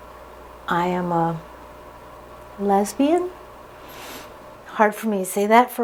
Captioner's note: sharp intake of breath